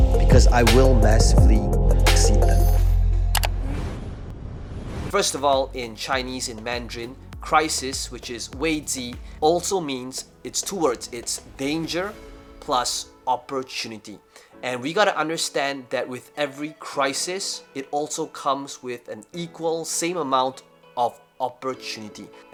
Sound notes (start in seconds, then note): 3.3 whooshing